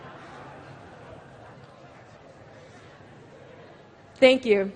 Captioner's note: laughter